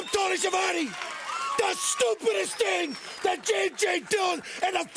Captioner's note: crowd cheering